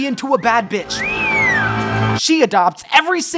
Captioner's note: whistles